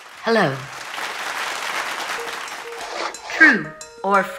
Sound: audience applauds

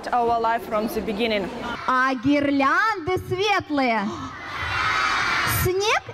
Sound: speaking in foreign language

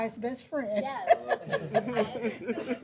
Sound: laughter

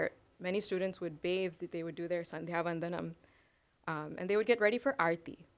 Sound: sanskrit

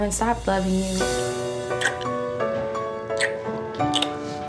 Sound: kissing sounds

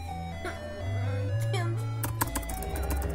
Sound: angry whining

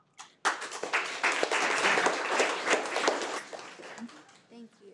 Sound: people clapping

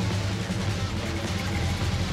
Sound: engine running

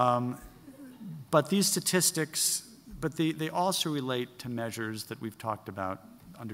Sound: laughing

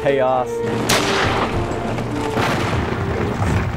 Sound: weapons firing

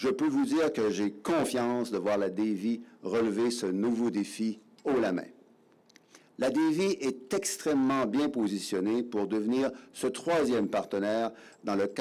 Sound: speaking in French

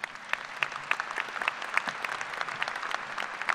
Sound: applause

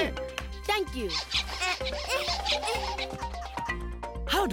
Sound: squeaking; chuckling; small grunts in effort

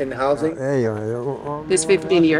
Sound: speaking in a foreign language

